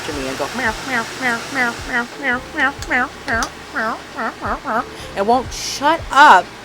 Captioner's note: mimics obnoxious, repetitive meowing